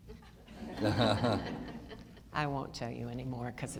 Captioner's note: audience laughter